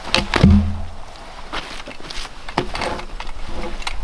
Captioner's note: log thudding